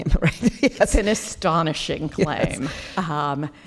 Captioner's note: laughing